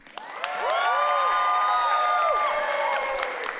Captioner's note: audience cheering